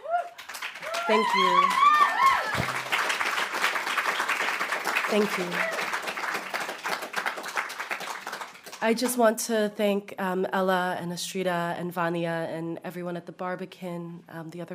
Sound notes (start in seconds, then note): 5.1 audience applauding; 5.1 audience cheering